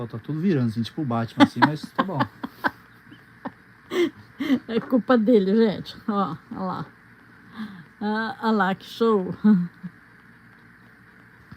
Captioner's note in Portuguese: risadas